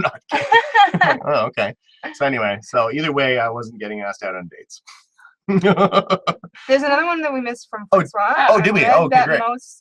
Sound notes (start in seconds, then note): 6.1 laugh